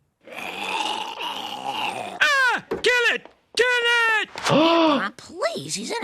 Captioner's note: Homer gurgling